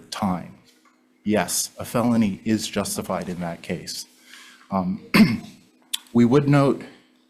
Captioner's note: clears throat